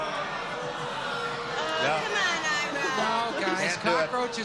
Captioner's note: booing